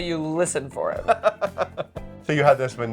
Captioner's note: laughing